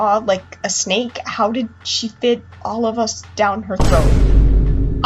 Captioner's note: boom